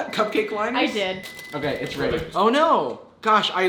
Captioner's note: microwave beeps